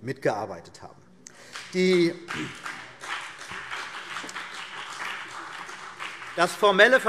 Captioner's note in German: Beifall CDU und BÜNDNIS 90/DIE GRÜNEN